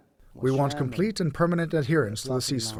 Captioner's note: through translator